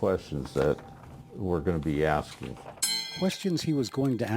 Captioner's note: bell ringing